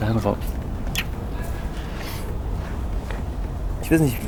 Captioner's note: Moritz speaks in German; lip smacks; Jonas speaks in German